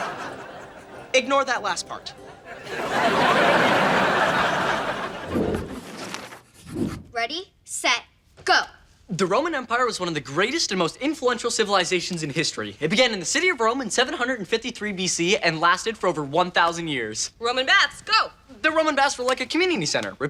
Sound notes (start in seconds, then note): 2.1 audience laughing